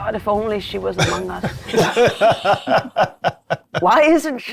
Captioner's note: players laughing